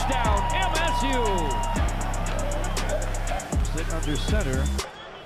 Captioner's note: crowd cheering